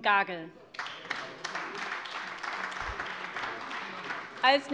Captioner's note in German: Beifall AfD und vereinzelt SPD